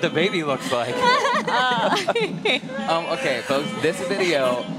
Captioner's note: laughter